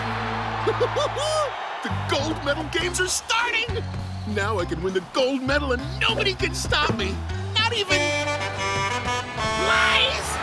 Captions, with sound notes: [laughing] The Gold Medal Games are starting. Now I can win the gold medal and nobody can stop me, not even-- [Blaze honking] Blaze?!